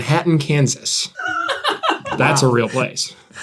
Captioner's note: laugh